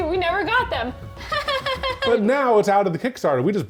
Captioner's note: laughs